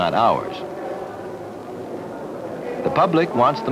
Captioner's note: indiscriminate chatter